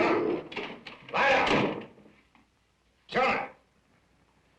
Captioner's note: dog growling